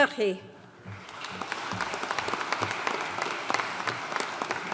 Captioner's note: audience applauding